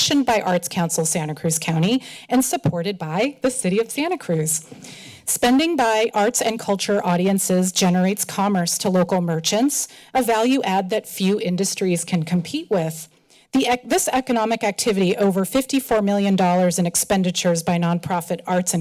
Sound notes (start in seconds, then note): none